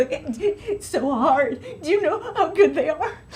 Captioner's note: sobbing